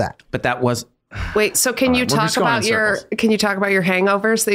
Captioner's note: Glenn sighs